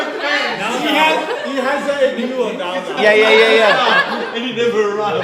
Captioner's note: crowd chatter; laughs